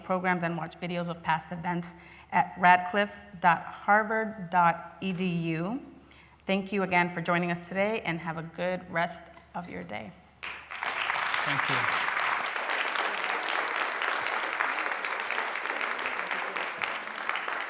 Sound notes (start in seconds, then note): 10.0 applause